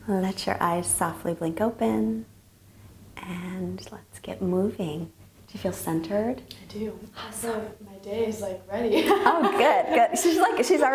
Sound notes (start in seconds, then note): 9.0 laughs